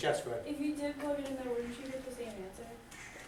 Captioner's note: voiceover